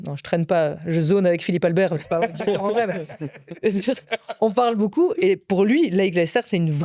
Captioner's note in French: rires